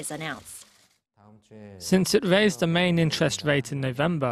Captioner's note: Korean